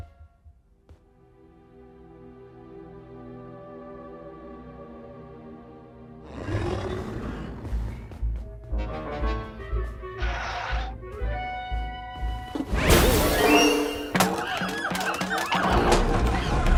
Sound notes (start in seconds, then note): 6.2 Kaufmo growls; 14.1 monkeys hooting, shrieking